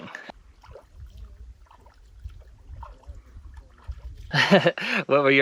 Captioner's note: water splashing; giggles